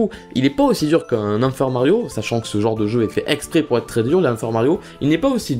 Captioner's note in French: none